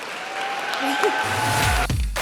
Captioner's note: audience applause